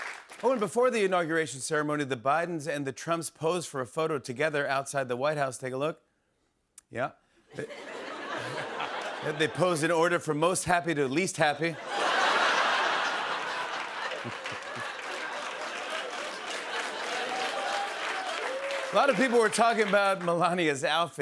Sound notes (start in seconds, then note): 0.1 normal voice; 7.5 laughter; 11.7 laughter; 15.6 applause